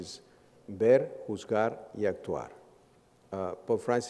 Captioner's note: speaks Spanish